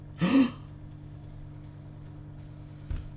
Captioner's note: gasps